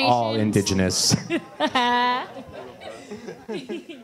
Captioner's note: laughter